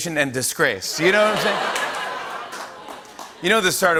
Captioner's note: laughter